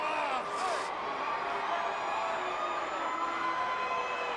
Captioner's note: crowd booing